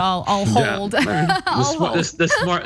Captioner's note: laugh